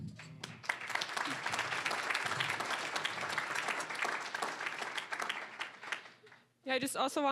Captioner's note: applause